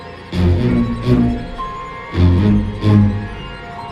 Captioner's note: farts